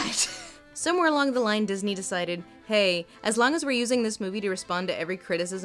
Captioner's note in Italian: voce fuori campo